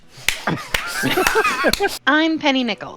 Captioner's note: slapping noises; laughter